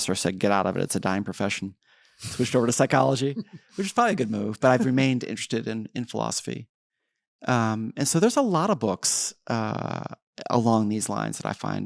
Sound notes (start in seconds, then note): 2.3 laughs